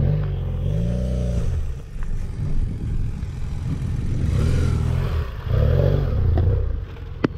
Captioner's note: engine noise; clap